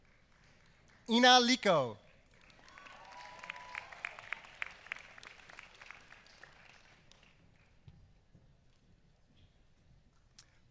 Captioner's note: applause